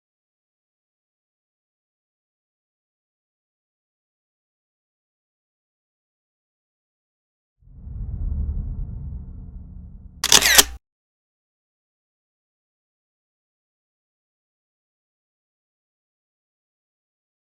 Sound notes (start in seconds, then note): 7.6 whoosh; 10.2 camera Flash